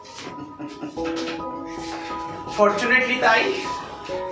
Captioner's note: laughs